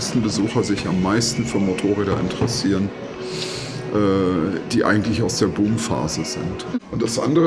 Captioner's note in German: schnauben